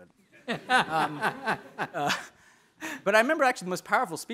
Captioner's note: audience laughing